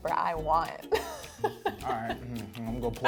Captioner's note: laughs